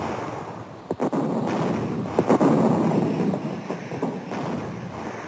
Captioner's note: bombs exploding